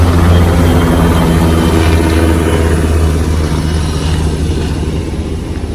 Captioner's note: the helicopter is right overhead and is quite loud; the helicopter starts to move away